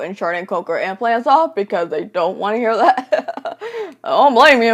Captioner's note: laughs